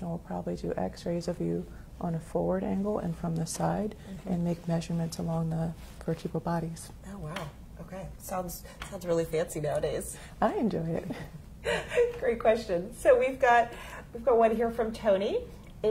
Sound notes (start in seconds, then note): 11.6 laughing